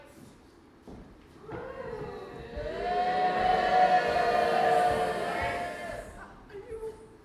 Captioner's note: audience boos and hisses